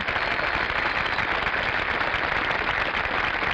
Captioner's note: audience applauding